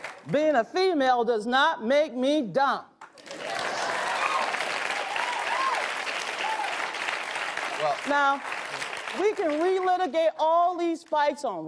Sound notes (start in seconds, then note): 3.1 audience applauds; 3.2 audience cheers